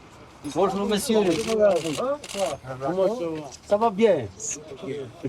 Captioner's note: speaking in French